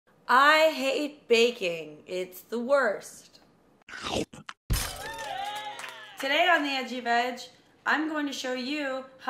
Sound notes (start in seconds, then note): 3.9 slurp; 4.9 applause